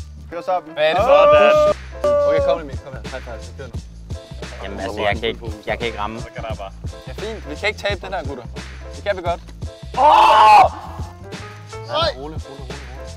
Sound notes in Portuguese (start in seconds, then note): 9.9 Gritaria